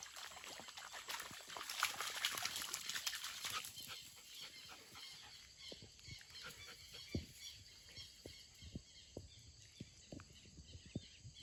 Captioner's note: sound of movement in the water and birds singing